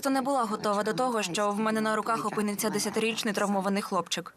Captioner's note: laughs